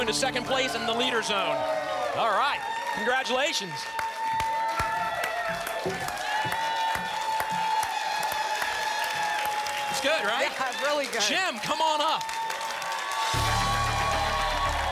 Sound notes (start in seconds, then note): 3.0 applause and cheering cont